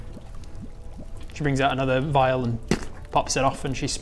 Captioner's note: pop